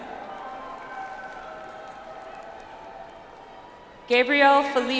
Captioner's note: audience applauds